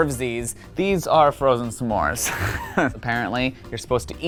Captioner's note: laughing